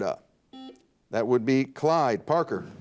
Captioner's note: buzzer dings